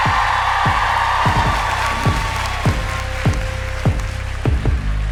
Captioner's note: cheering